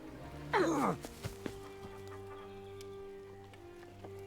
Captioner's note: man grunts; orchestral music